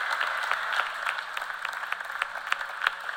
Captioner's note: cheers and applause